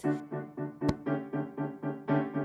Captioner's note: slap